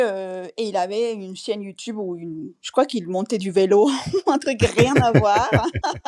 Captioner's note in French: rires